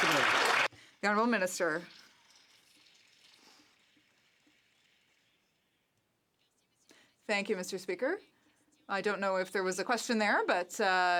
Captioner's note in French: applaudissements